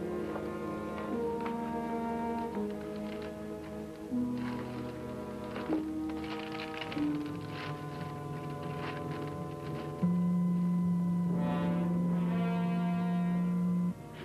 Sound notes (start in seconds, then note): 4.7 paper crinkling; 11.6 tense music